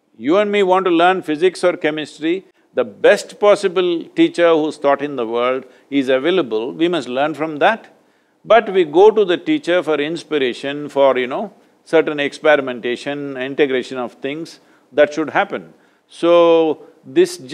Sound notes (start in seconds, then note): none